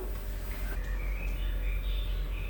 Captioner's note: birds chirping